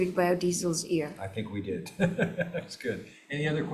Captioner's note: laughing